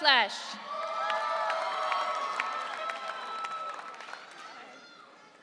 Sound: audience cheering

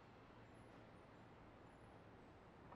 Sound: none

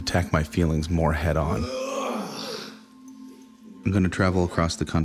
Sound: grunting

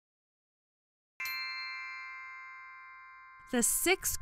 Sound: magical chime

